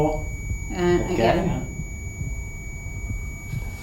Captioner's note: beeping